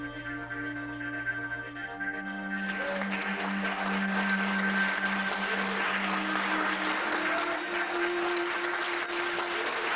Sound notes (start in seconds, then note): 2.6 clapping